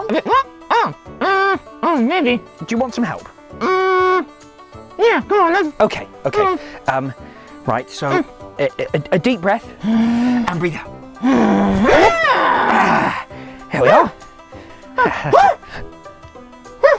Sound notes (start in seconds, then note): 9.7 breathes in; 11.2 breathes out and then yells